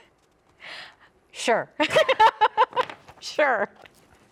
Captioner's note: chuckles; laughs